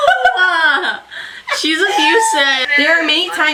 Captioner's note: laughs